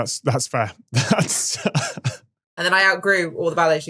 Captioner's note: chuckles